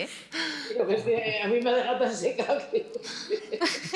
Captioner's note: laugh